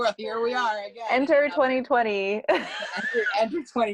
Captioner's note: laugh